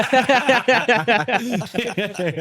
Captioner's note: both laughing